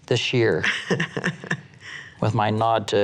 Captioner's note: laughs